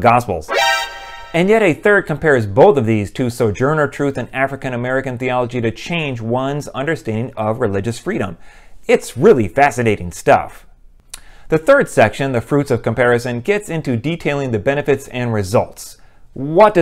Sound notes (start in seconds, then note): none